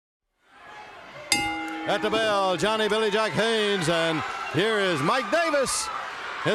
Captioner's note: bell ringing